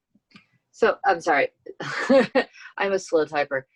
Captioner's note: laughs